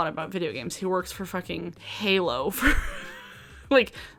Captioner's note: laughs